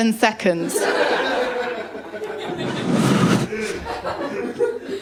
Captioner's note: laughter